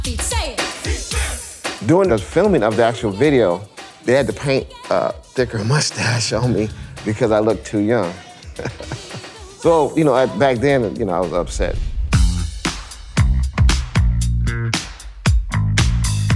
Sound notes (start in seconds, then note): 8.0 laughs; 13.1 upbeat soul music